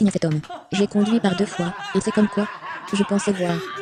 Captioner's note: laughing